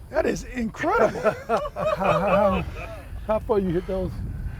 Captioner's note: laughter